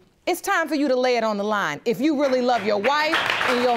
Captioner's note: audience applauding